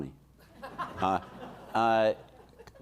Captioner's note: audience laughing